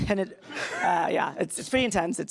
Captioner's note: laughs